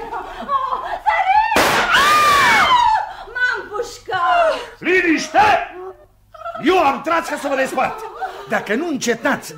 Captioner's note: shoots gun